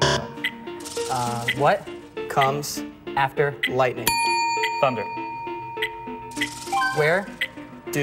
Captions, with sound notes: [buzzer] What comes after lightning? [bell dings] THUNDER.